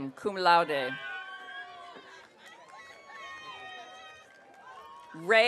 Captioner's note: audience cheering